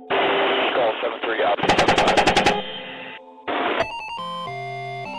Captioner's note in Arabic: إطلاق النار من الرشاشات; موسيقى اللعبة الإلكترونية